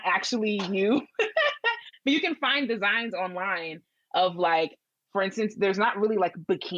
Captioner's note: laughs